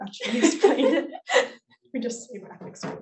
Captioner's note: laughs